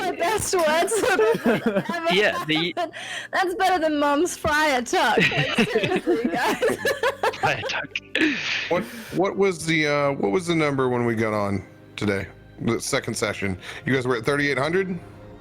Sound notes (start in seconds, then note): 5.1 giggle